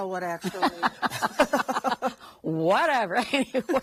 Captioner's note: women laughs